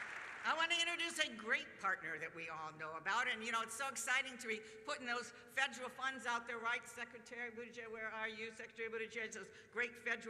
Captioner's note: applause